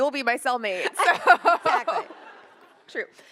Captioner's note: laughs